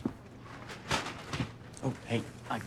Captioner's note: bag pattering